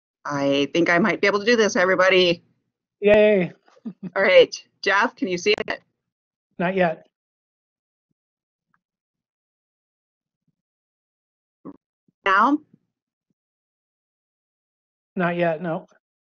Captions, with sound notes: I think I might be able to do this everybody. - Yay. (laughs) - All right, Jeff? Can you see it? - Not yet. - Now? - Not yet, no.